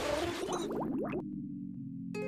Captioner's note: bubbling